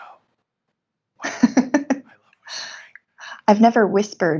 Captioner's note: whispering